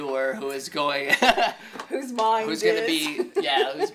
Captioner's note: chuckles